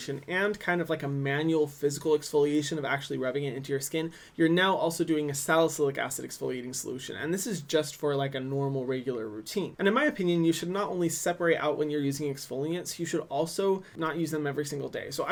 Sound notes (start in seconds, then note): none